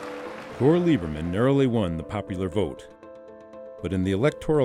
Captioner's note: voiceover